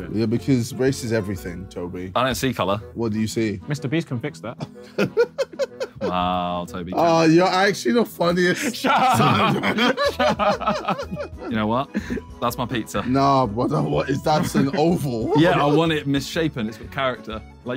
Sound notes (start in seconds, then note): 4.6 laughing; 8.5 laughing